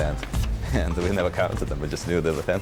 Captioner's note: chuckles